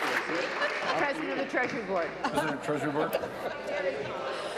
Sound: applause

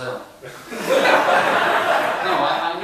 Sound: laughter

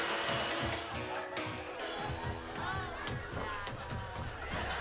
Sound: sitcom playing on TV

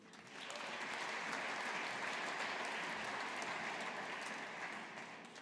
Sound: audience applauding

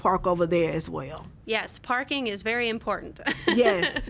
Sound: laughs

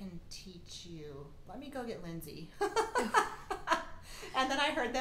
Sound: laughing

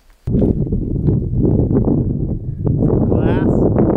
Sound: wind blowing

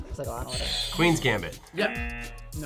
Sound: buzzer rings; buzzer

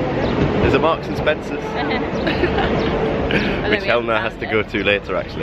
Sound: laughs

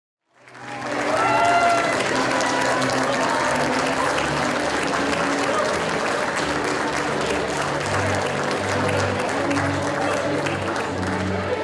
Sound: applause

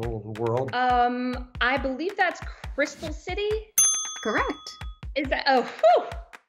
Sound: bell ding

